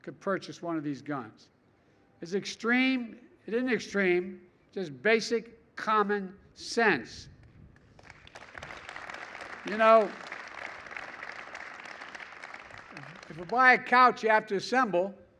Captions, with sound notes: could purchase one of these guns is extreme? It isn't extreme; it's just basic common sense. (Applause.) You know, if you buy a couch you have to assemble,